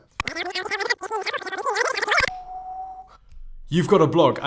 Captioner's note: tape rewinding